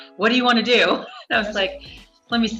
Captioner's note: laughs